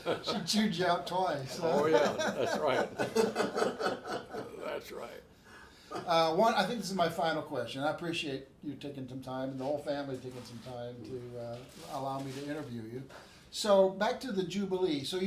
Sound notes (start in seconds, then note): 0.0 everyone laughs; 1.4 laughs; 3.1 everyone laughs